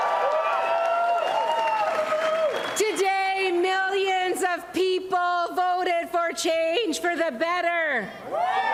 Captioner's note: cheers and applause